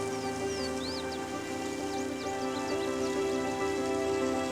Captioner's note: sounds of waterfalls